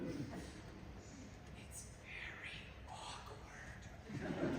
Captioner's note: MARCO, whispering; laughter